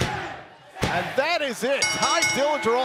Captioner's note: bell ringing